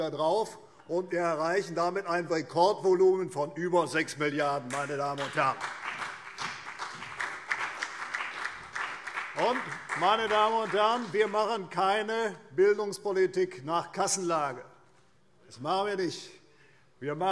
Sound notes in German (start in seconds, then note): 5.0 Beifall CDU und BÜNDNIS 90/DIE GRÜNEN